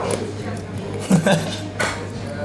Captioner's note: laughs